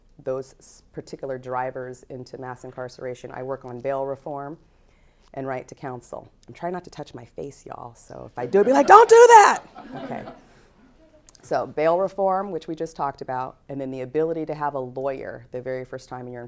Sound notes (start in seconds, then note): 8.6 audience laughs